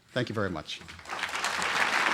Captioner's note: applause